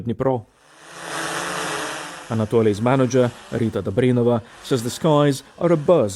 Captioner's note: bus engine